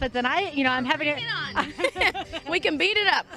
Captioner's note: laughter